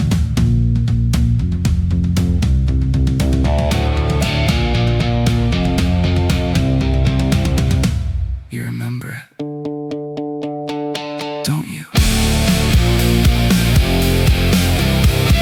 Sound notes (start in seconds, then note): 8.4 spoken — low, slow